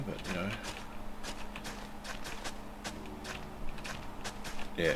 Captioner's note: typing